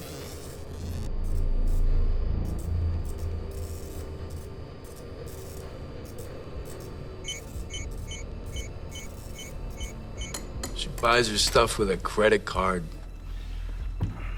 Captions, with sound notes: [beeping] - SHE BUYS HER STUFF WITH A CREDIT CARD.